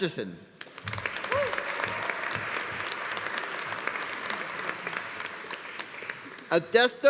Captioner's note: audience applauding; audience cheering